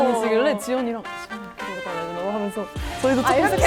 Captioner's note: whisper